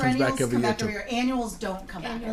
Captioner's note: voiceover